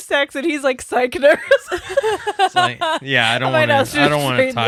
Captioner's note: laughing